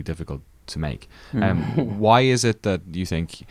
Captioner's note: men laugh